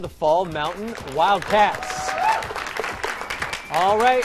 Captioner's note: applause